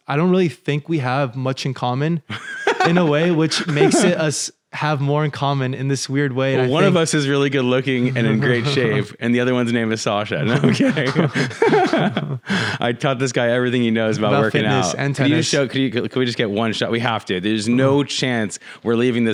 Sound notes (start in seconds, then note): 2.3 laughs; 10.4 laughs; 10.4 they both laugh